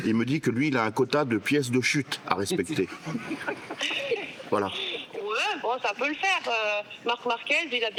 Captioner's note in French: rires